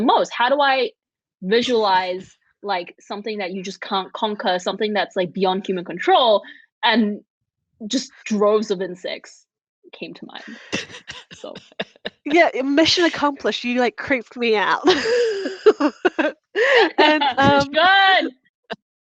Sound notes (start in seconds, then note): 10.4 laughs; 17.3 all laughing